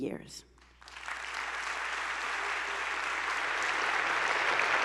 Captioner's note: attendees applauding